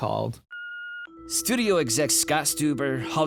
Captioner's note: beeps